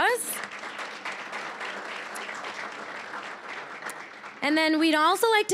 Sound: applause

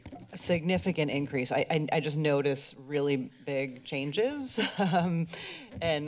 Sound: laughs

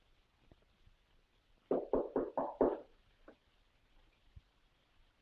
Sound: knocking at door

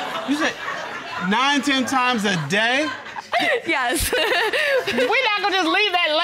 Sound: audience hooting, laughing; chuckles

